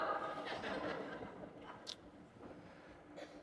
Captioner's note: laughter